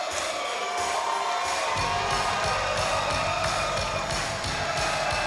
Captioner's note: crowd cheers